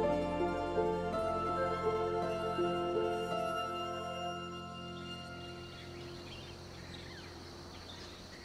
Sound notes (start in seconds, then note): 5.0 birds chirping